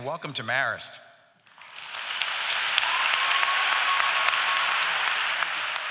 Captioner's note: applause